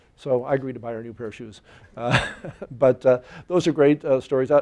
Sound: chuckling

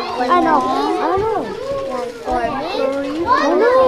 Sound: students chattering

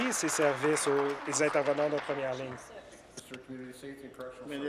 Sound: applause

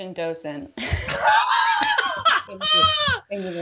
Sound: both laughing

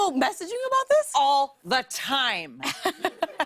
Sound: laughter

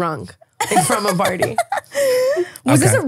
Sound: laughing

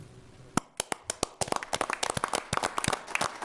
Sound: applause

